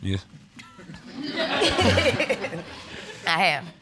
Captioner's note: audience laughing